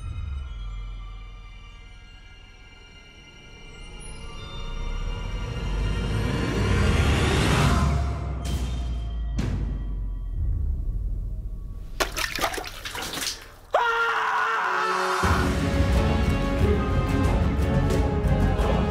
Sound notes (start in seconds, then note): 11.9 water splashes; 14.7 suspenseful music